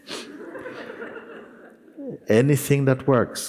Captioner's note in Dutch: gelach